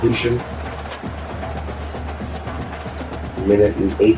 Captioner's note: crowd Noises